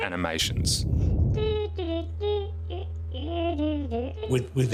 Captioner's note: little voice hums